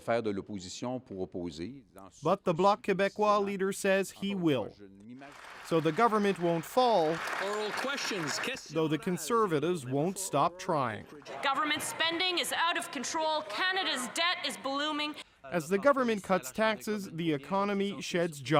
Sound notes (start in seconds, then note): 4.4 speaking French